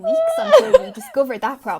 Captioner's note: laughing